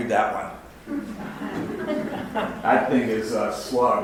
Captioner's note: audience laughs